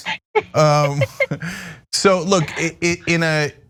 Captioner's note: laugh